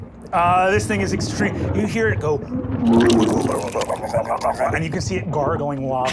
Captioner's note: groaning